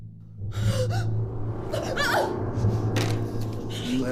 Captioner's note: Ava panting; paper rustles